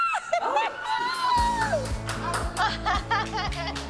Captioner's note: squeals; laughs